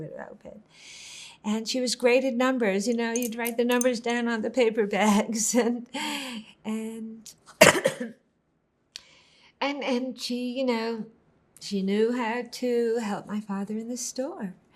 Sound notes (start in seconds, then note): 7.6 coughing